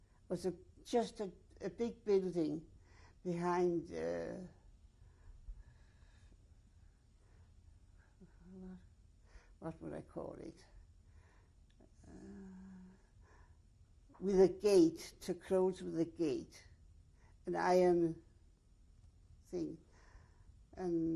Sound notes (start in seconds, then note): 4.6 pauses for 6 seconds; 11.1 pauses for 3 seconds